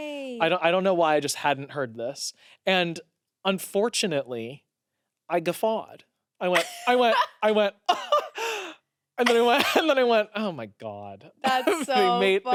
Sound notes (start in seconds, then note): 6.5 laughs